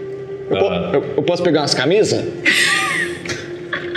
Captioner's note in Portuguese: risada